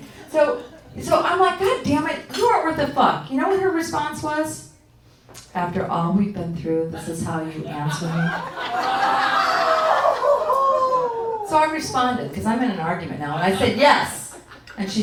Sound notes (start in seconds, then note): 8.3 audience oohing